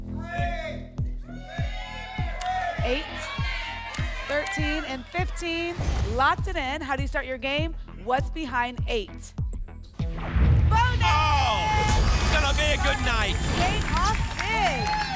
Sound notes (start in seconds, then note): 1.3 audience shouting numbers; 10.1 boom